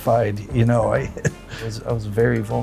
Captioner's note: laughs